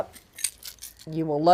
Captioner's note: cap rattling